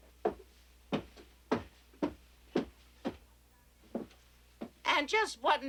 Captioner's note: footsteps clomping